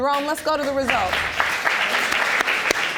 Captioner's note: audience applauding